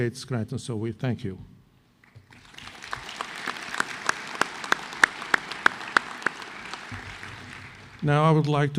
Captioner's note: applause